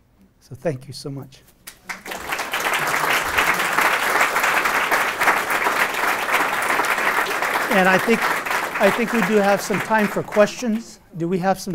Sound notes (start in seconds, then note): 1.6 applause